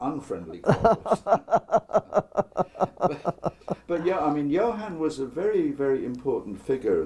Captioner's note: laugh